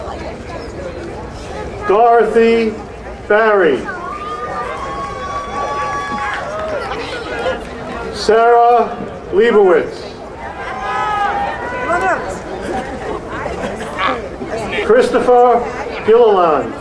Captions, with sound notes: Dorothy Berry. (crowd cheering) Sarah Leibowitz. (crowd cheering) Christopher Huolon.